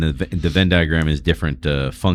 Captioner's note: uh